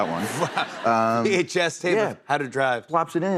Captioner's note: laughter